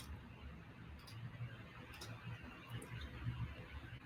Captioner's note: mouse clicking